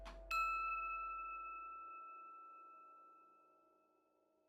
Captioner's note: bright tone chimes